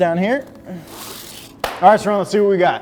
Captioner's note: angle finder screeches